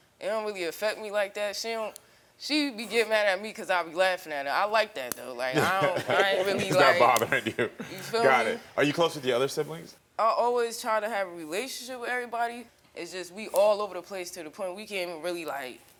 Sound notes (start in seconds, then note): 5.5 all laughing